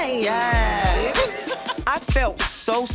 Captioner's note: laughing